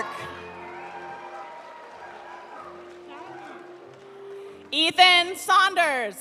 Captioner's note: audience cheering; audience applauding